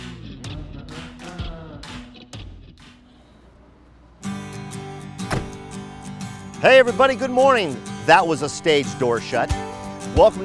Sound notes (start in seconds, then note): 4.2 soft guitar music; 5.2 door shuts